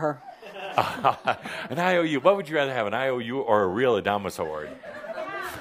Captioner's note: chuckles